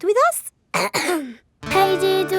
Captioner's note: clears throat